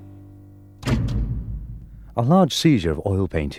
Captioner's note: switch clicking